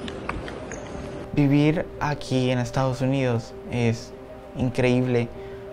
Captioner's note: child speaking Spanish; speaking Spanish